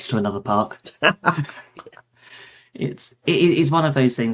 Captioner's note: laughs